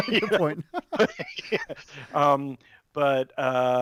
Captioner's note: laughs